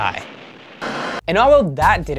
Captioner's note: static